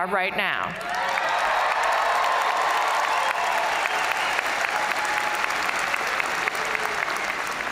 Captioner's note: crowd applauding; crowd cheering